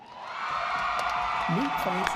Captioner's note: audience applauding